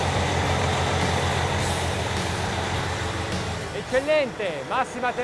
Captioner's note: upbeat rock music; mechanical whirring; speaking foreign language